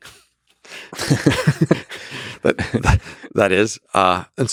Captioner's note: Lex and Robin laugh